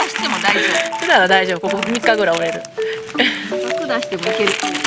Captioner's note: laughs